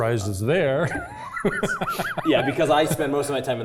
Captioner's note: laugh